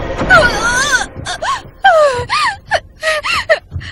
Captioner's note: gasping